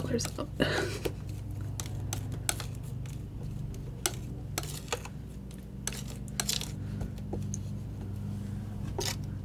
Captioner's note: scissors snipping